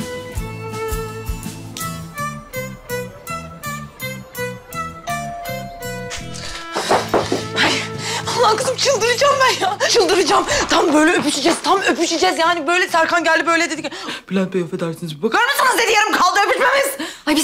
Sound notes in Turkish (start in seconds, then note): 5.0 Kapı zili sesi